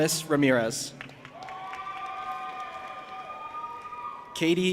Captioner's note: audience applauding and cheering